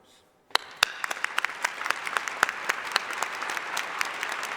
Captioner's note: applause